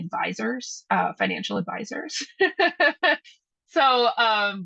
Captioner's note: laughs